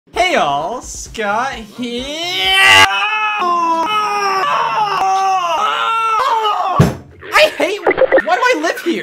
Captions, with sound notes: Hey all Scott herEAAAAAAAAAAAA *pain noises* I HATE *combine radio noises* WHY DO I LIVE HERE?